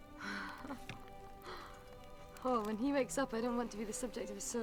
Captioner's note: laughs